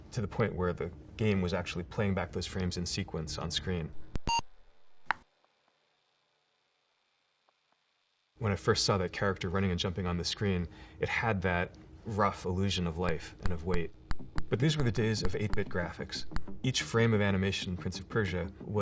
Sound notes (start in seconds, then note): 4.2 computer beep